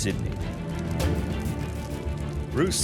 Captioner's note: torch crackling